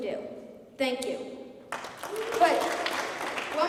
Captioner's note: applause